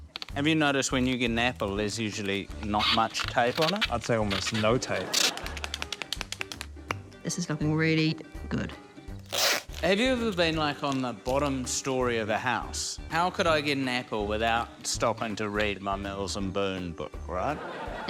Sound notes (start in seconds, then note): 5.3 pen rattles; 9.2 tape squeaks